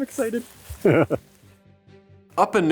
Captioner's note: giggling